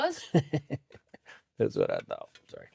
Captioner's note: laughing